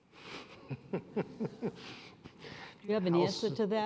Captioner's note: laughs